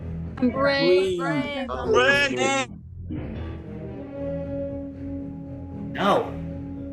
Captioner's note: everyone shouting "i'm brave"